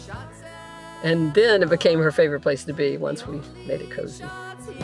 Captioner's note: speaking over music